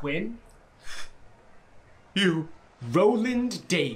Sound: gasp

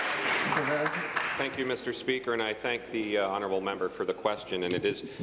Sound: applause

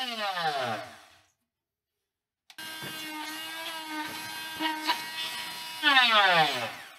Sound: machine whirring

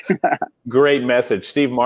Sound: both laugh

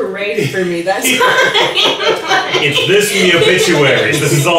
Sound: everyone laughing

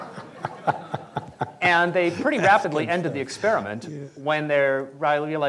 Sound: laughter

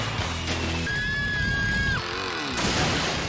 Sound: continues screaming

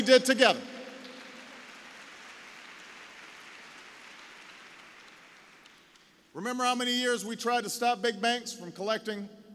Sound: applause

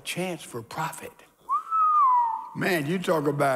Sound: whistles

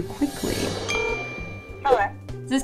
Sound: text tone

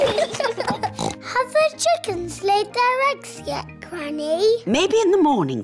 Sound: both giggling; oinks

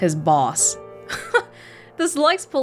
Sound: chuckles

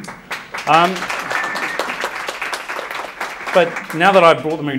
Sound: audience applauds

